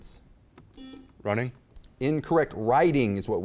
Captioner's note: beep